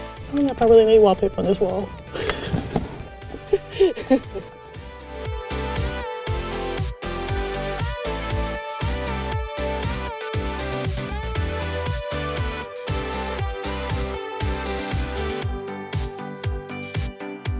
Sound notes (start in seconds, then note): 0.0 upbeat music; 2.0 laughing; 5.1 upbeat music